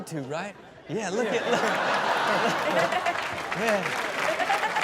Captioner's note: audience laughs; audience applauds